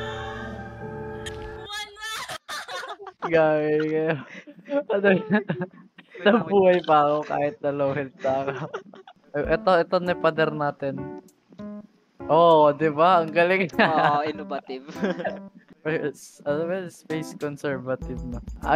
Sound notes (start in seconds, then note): 14.7 giggles; 15.7 stutters